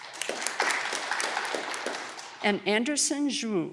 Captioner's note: audience clapping